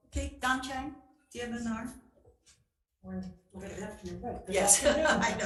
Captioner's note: speaking foreign language